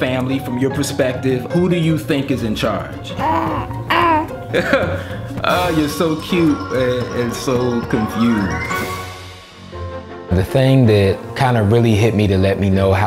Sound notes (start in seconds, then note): 3.1 baby gibberish; 3.1 laughs; 9.6 bright piano music